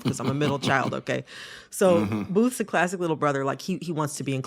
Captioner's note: laughter